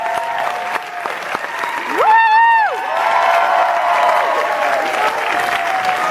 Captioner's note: cheering and applauding